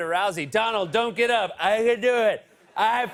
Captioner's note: As Trump, slurring